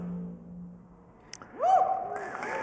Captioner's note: cheers and applause